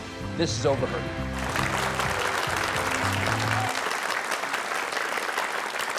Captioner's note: audience applauding